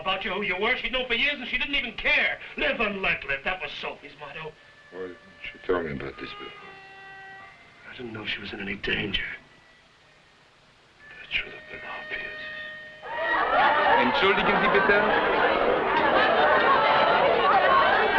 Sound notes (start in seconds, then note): 13.0 partygoers conversing loudly; 14.5 man speaking foreign language